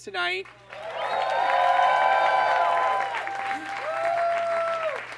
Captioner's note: audience cheers and claps